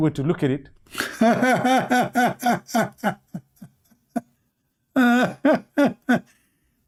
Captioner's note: Ketawa